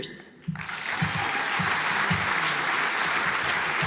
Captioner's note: audience applauds